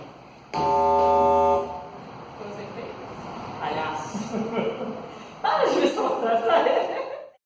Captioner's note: buzzer